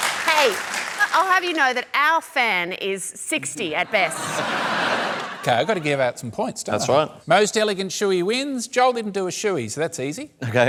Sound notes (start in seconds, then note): 3.8 laughter